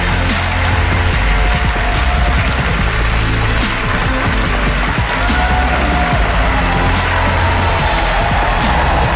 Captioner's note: audience going ape-shit